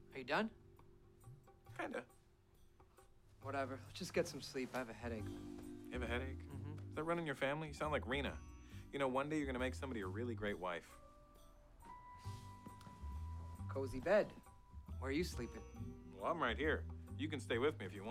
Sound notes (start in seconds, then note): none